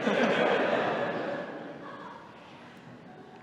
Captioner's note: laughter